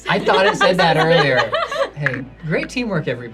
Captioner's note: group laughs